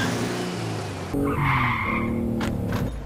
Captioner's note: Brakes squeal